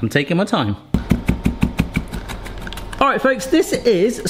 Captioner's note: knife tapping